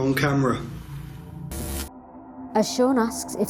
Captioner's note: static zapping